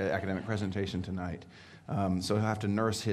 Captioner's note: audience laughing